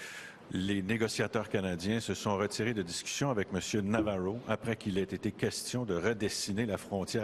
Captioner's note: speaking French